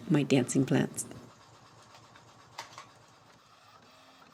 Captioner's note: printer whirs